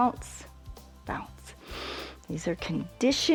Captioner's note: inhales